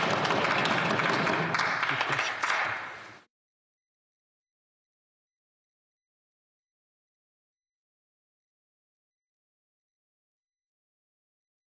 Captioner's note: some Applause